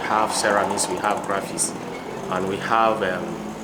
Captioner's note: engine roaring